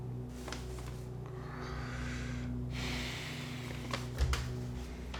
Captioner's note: sighs, ominous music